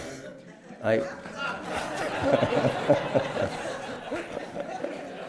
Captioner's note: laughter